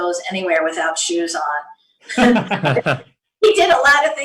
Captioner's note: laughter